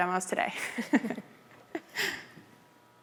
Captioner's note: laughter